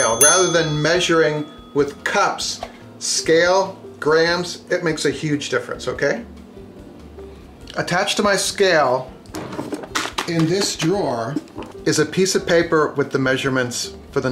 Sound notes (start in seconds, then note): 0.0 dinging; 9.6 thumping